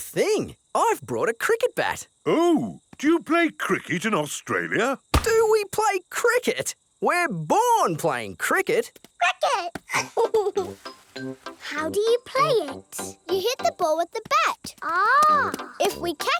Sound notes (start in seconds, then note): 9.9 giggles